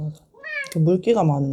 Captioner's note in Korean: 울음소리